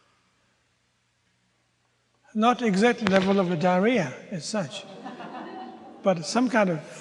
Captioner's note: audience groans